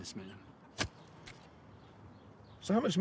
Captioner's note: shovel thuds